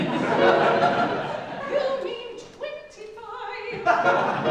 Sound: audience laughs

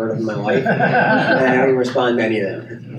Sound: laughing

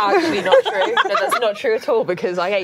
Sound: laughing

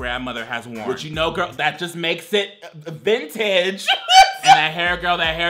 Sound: laughs

